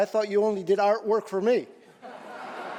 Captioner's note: laughter